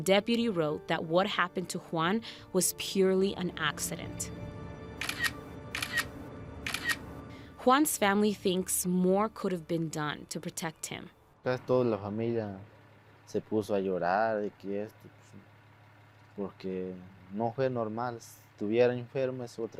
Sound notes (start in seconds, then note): 6.6 camera clicking; 11.9 speaks in foreign language